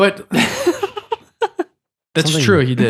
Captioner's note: laughing